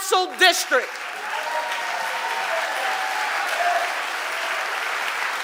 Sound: audience applauding

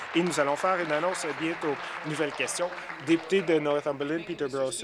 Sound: applause

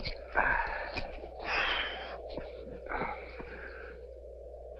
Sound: heavy breathing

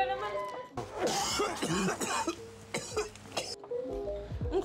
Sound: laughs; coughing noise

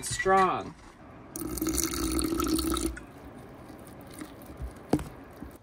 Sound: liquid sloshing

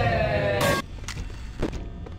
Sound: metal pipe jumpscare

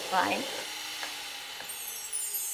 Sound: the whirring stops; magical sounds

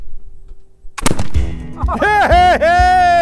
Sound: gunshot; men cheering

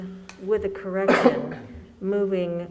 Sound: coughing

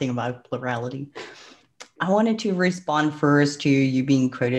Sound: breath; clicks tongue

